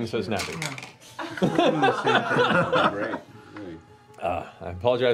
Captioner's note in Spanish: risas